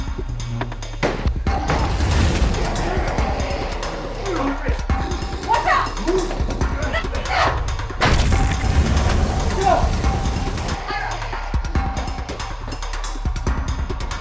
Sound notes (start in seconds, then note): 2.0 zapping; 7.6 crashing